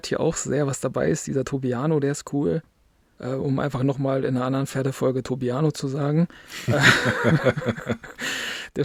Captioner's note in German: gelächter